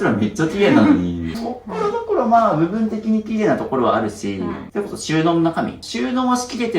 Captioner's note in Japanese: 咳払い